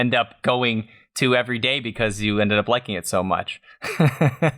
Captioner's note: laughter